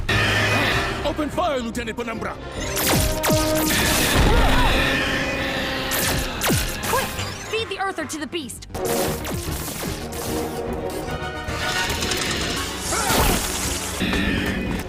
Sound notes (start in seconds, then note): 0.0 moon Mite Screeching; 3.5 Angry Moon Mite Screech; 4.2 More angry Moon Mite sounds; 11.6 Angry Moon Mite chittering; 14.3 angry screeching